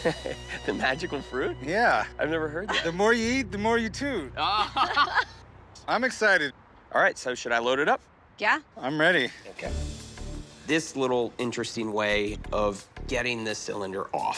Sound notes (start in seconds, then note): 4.5 laughter